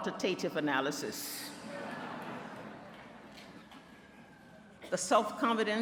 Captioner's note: laughter